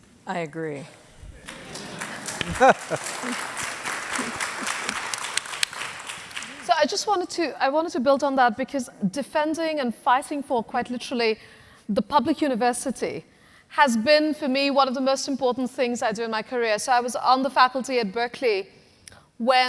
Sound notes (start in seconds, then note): 1.3 audience applauding